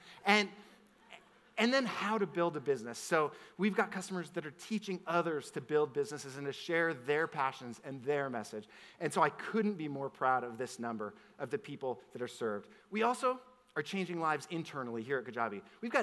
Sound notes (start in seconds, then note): none